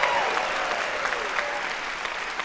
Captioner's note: cheering